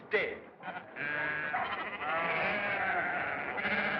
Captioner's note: bleating